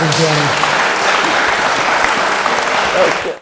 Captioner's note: crowd clapping